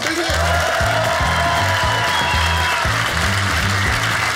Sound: audience applauding

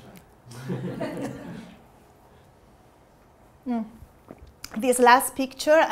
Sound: group laughing

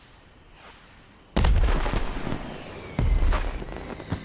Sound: fireworks

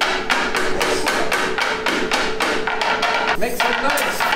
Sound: tapping harder

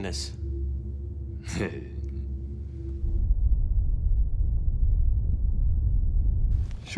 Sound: chuckle

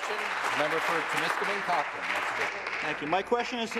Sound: applause

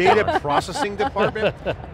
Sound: laughing

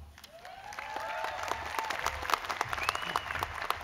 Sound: cheers and applause

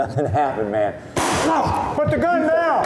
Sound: gunshot; yells

